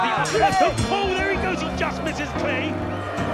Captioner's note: bell ringing